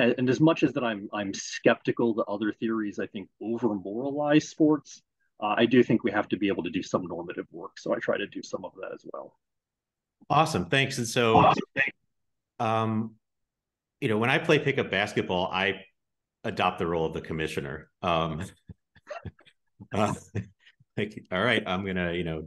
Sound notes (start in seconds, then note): 18.2 both laugh